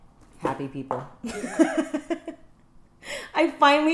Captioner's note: laughs